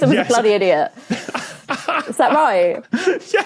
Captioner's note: cackles breathily